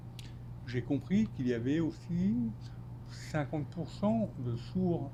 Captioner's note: speaking French